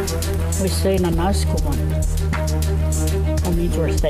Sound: speaking Danezaa

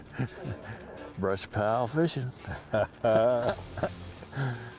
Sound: laughs

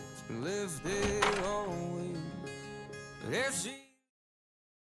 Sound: door opens

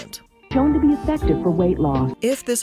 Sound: voice-over

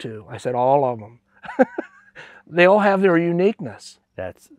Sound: laughs

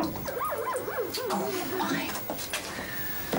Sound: dog whining

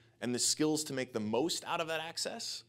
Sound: none

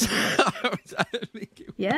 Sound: laughing

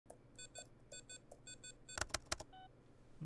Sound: computer beeping

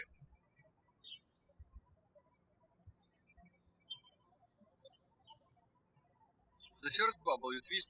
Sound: birds chirping

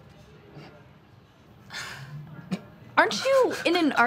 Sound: snickering

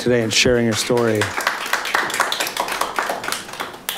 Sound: applauding

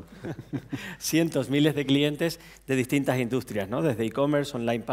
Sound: speaking spanish; speaking spanish

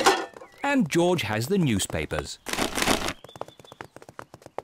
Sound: cans rattle; papers thud

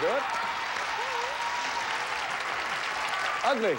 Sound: audience applauding

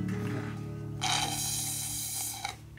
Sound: slurping sound

